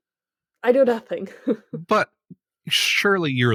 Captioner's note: laugh